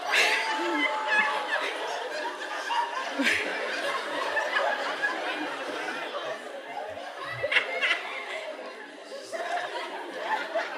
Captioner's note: laughter